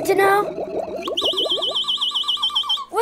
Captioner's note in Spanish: chirrido fuerte